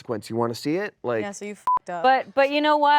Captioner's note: beep